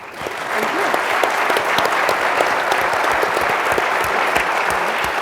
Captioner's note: audience applauds